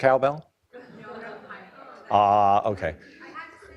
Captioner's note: laughing; talks off mic